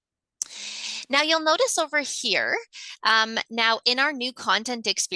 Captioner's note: gasps